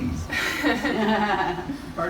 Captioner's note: laughter